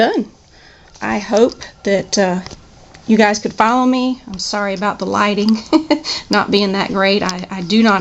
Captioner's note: laughs